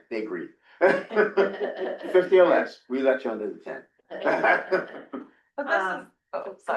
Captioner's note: laughter